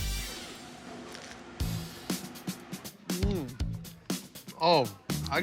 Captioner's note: crust crunching